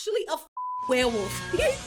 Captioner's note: beep